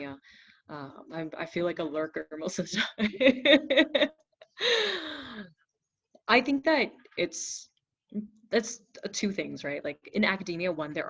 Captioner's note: laughs